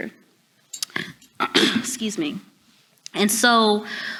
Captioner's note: clears throat